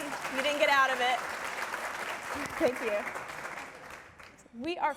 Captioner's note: applause